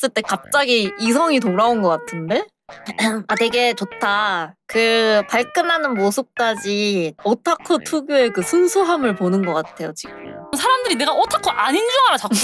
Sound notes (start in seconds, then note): 2.6 cough; 4.2 sarcastic